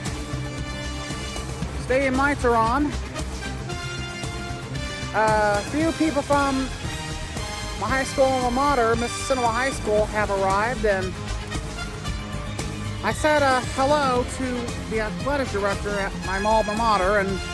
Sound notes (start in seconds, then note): none